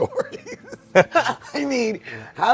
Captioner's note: laughs